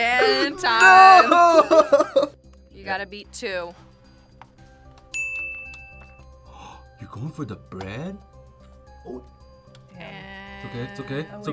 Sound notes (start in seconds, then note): 0.0 laughs; 5.1 bell rings; 6.4 gasps